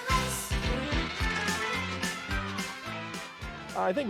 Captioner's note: children cheering